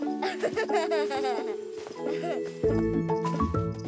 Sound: Bobble giggles

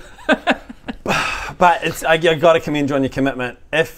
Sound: sigh

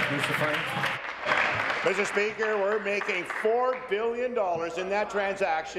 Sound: applause

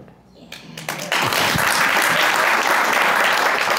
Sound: applause

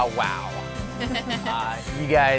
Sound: laughter

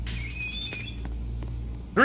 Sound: door creak

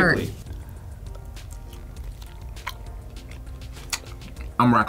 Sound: chewing noises

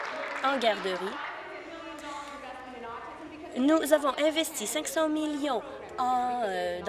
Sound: applause

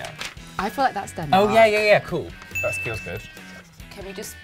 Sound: bell dings

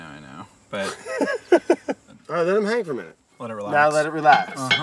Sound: laughs

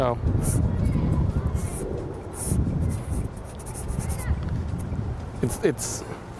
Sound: drawinng sounds

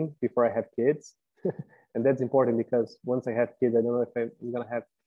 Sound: laugh

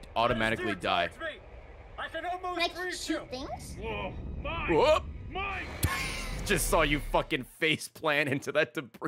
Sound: laughs

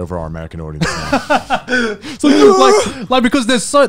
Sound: everyone laughs

